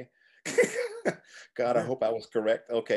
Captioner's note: laughing